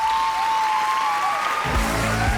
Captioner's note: cheering